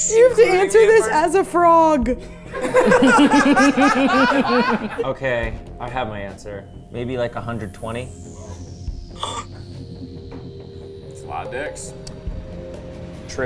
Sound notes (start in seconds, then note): 2.5 everyone laughing; 9.0 gasping; 9.9 tense music; 12.1 tense music